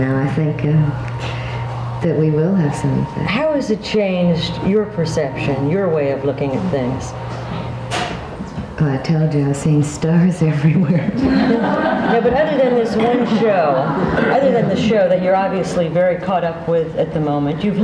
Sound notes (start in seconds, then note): 10.6 audience laughing